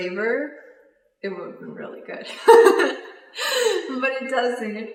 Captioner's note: laughs